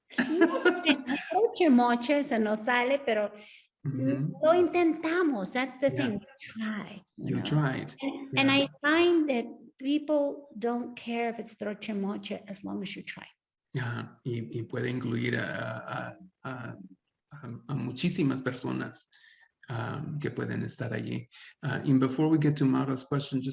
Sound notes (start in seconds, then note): 0.0 speaking Spanish; 0.1 laughing; 0.2 Sandra speaking Spanish; 11.8 speaks Spanish; 13.8 speaking Spanish